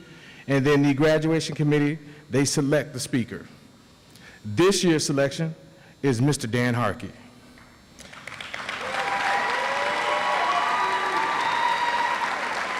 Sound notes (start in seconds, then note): 8.0 audience applauds